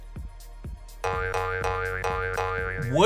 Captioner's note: boing Noises